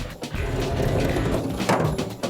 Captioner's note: thud